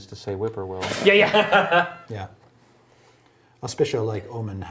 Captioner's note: laughing